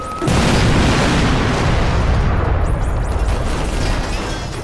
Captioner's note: siren wailing; explosions booming; gunshots thudding